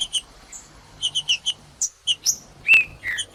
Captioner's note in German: trinca ferro cantando